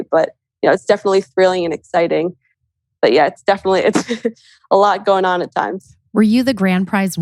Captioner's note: laughs